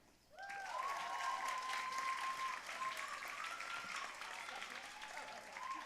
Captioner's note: audience cheering and applauding